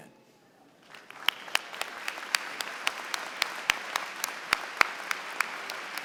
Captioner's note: applause